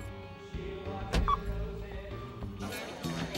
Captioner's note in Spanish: pitido